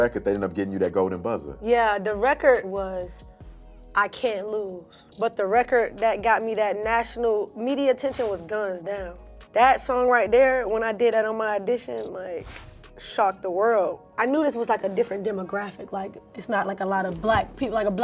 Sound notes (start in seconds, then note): none